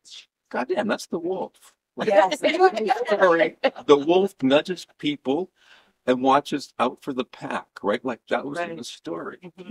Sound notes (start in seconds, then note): 2.0 laughter